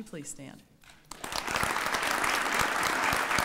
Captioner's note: applause